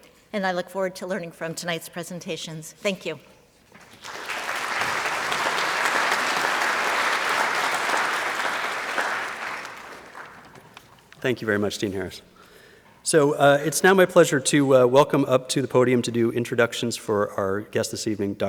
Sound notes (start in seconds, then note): 3.8 applause